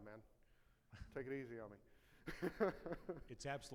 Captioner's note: laughs